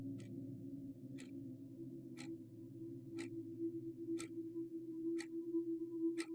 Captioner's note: eerie gentle music continues; clock ticking